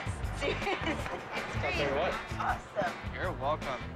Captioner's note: laughing